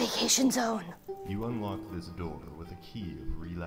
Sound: male Voice

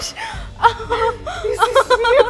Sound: laughing

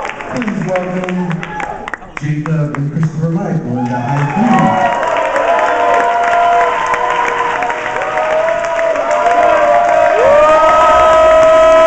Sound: applause

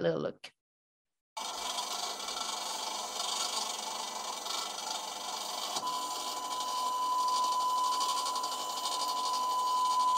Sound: machine hissing and beeping

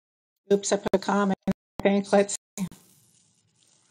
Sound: faintly speaking

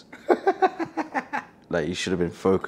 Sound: laughing

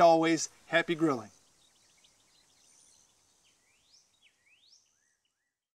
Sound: birds chirping

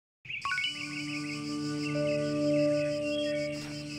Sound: birds chirping

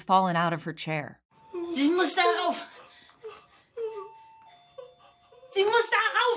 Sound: in German

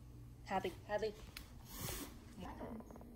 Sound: Zara hisses

